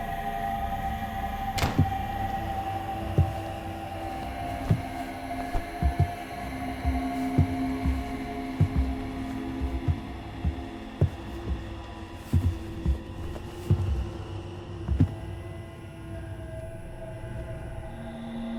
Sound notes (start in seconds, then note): 1.6 door thudding; 2.9 pensive music continues